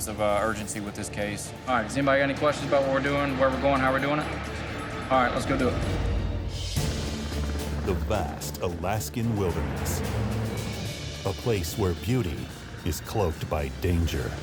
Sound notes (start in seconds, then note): 6.7 helicopter blades whir; 6.7 intense music